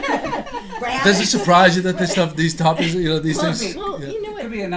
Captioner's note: voiceover